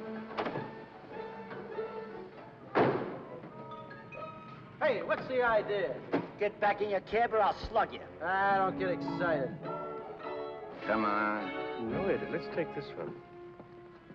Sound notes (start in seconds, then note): 2.7 car door closes